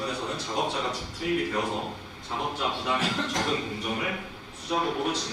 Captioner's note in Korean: 목을 가다듬음